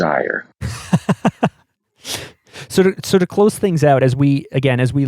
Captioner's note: laughs